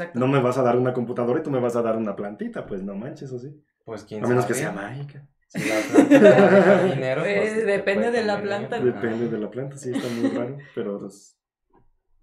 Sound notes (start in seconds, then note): 5.6 laughter; 9.9 laughing in agreement